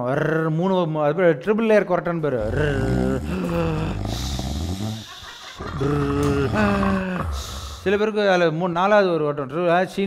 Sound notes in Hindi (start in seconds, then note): 2.4 खर्राटे की आवाज